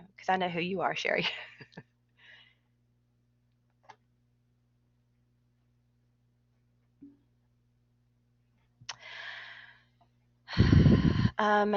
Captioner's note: laughter